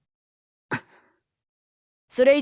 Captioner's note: forced silence